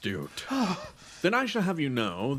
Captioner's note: Gartrinus sigh of relief